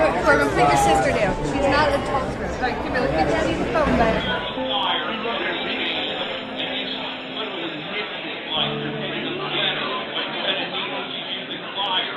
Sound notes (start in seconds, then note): 4.2 crowd chattering